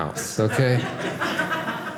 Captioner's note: audience laughing